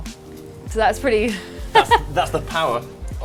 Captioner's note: laughs